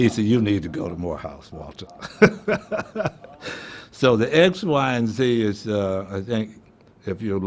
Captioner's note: laughing